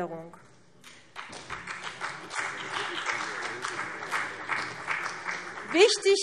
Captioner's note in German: Beifall CDU und BÜNDNIS 90/DIE GRÜNEN